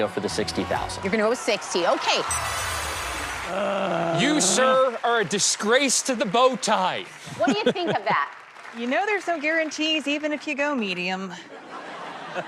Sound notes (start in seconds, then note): 3.5 groans; 11.4 laughter